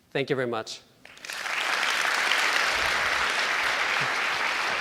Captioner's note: applauding